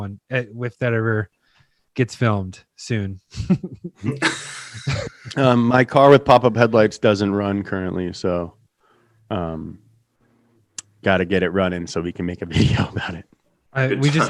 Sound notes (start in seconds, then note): 3.4 hosts laughing